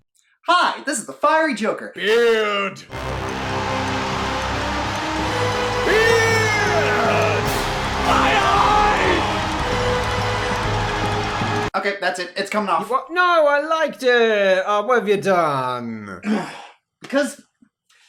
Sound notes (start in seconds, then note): 16.2 sigh